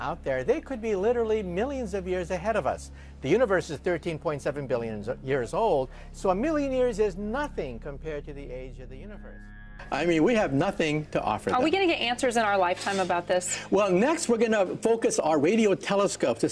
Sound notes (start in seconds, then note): 11.7 voiceover